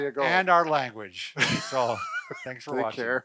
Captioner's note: laughs